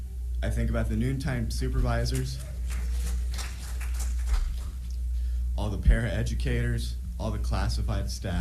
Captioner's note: applause